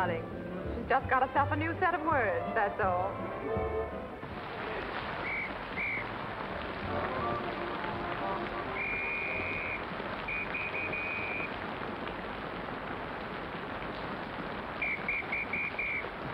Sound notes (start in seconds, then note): 5.7 whistles blowing to hail cabs